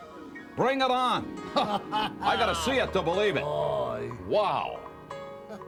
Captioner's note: laugh